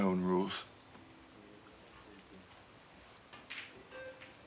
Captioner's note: thunder rumbles